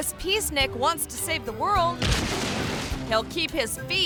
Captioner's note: balloon crashes